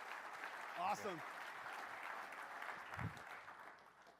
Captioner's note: applause